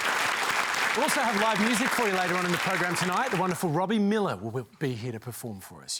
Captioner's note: applause